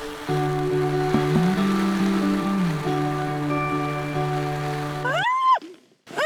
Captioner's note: rain